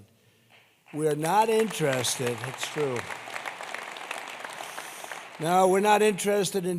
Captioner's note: applause